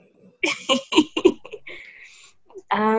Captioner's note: laughs